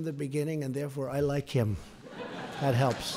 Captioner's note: laughter